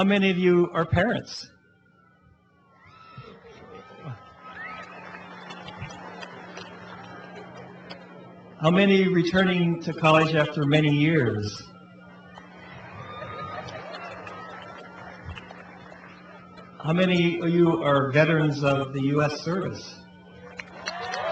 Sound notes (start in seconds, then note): 2.7 cheering; 11.7 cheering; 20.2 cheering and applause